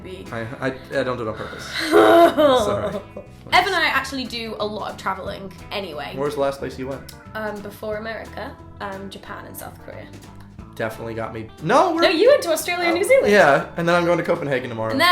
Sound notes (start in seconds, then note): 1.4 groaning